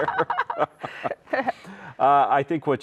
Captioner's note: both chuckle